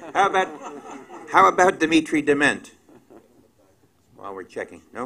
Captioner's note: laughter